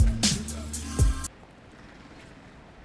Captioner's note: music stops